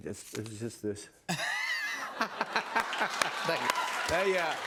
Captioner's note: cheers and applause